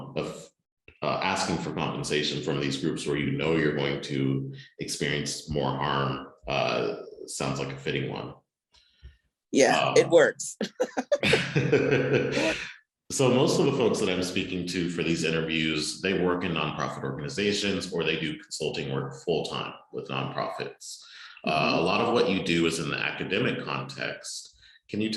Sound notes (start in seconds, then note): 10.8 laughter